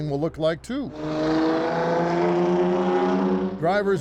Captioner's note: car zooming